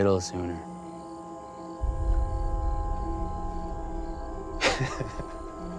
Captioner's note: crickets chirping; tense music; Ben laughs